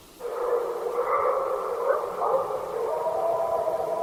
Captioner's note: creature barking